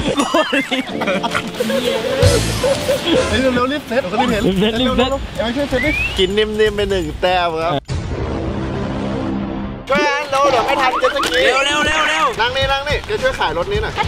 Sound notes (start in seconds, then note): 0.0 laughing continues; 4.9 pat